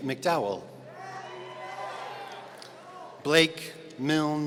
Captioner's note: audience cheering